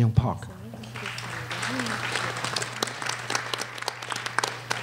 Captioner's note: applause